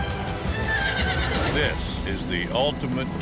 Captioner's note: horse neighs